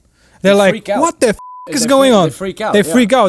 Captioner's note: beep